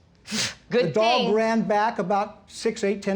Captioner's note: scoffs